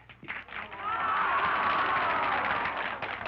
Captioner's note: women jeer; applause